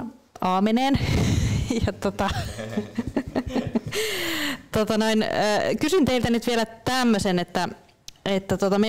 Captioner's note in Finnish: Naurahtaa